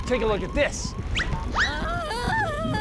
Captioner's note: whistle; tarzan call